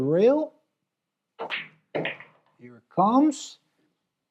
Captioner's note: balls clacking